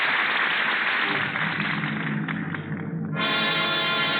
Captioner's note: applause